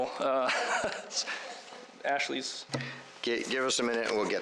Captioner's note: chuckles